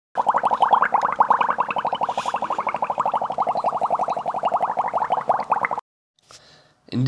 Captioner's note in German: Blubbern